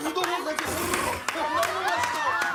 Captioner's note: slurp